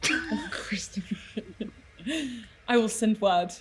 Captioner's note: mutters